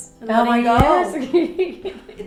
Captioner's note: laughing